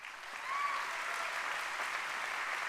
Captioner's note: applause